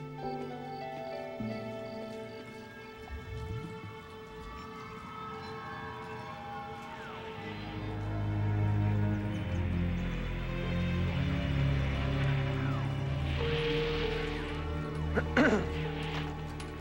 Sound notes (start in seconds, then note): 8.1 <i> static squealing</i>